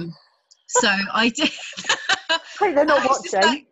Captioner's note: both laughing